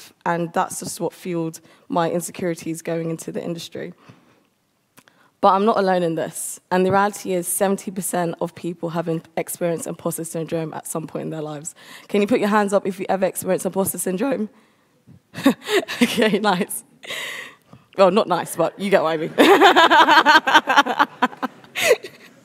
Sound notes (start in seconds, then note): 15.3 chuckles; 19.2 laughs